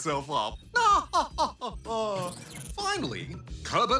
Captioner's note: laighs; chuckles